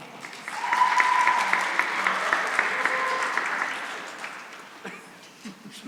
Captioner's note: cheering and applause